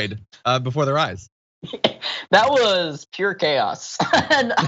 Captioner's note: laugh